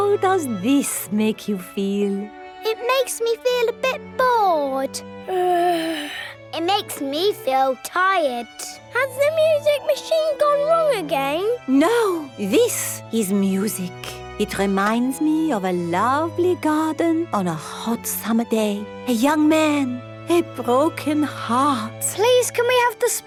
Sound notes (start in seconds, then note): 5.2 yawns